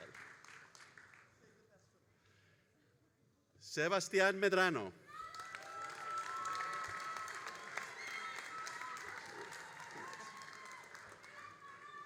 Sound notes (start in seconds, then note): 5.1 all applauding and cheering